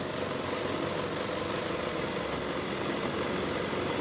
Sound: sewing machine sounds

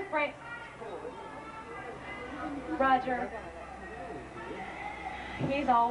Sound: Roger Rabbit shouting in distance

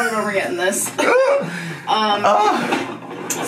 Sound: laughs

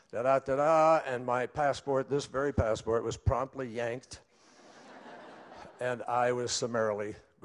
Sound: laughter

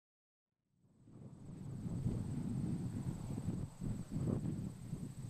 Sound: air whooshing

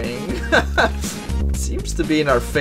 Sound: laughter

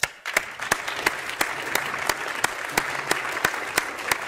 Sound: audience applauding

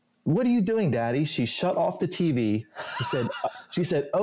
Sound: laughs

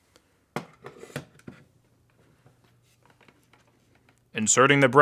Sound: hard drive clunking

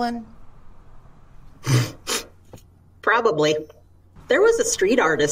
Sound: sniffing

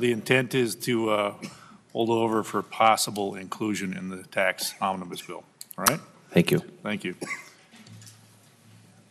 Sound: laughter

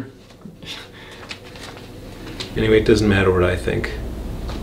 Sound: none

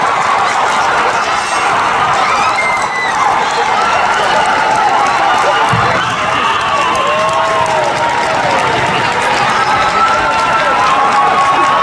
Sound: applause & Screaming

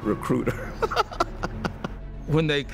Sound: laughs

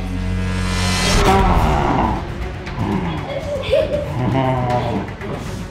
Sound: dramatic music; neighbor growling

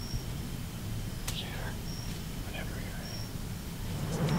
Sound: whispering

